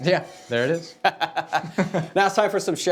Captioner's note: laughing